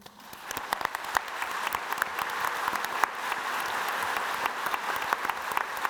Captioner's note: audience applauding